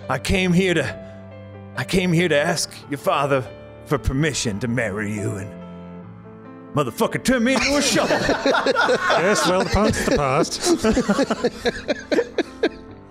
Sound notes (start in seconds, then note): 7.6 laughs